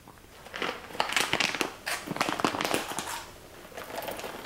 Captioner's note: bag crunching